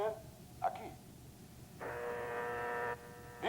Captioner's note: buzzing